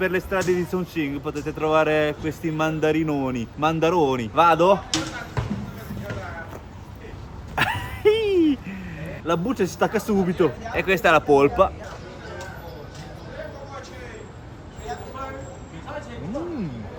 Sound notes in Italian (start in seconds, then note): 7.5 risate